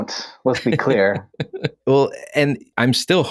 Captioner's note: laughs